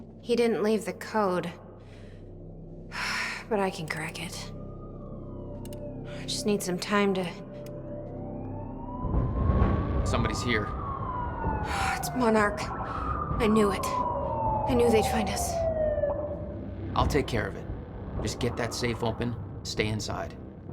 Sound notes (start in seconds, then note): 5.0 sirens are beginning to be heard more closely; 12.5 sighs